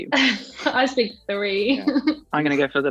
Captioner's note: Amita laughs